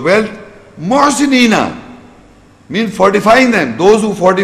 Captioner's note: Arabic